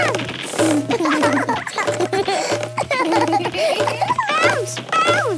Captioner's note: both laugh